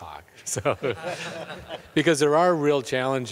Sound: everyone laughs

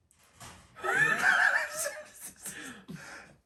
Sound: starts to laugh

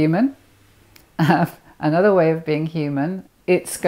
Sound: chuckles

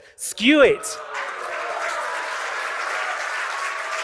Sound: cheering and applause

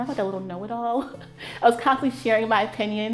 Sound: laughing

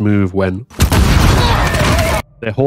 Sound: explosion

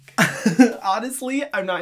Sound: laughs

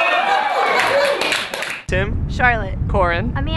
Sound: cheers

